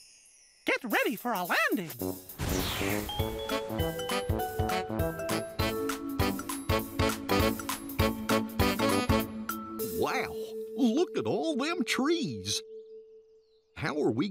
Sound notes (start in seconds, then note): 5.6 whoosh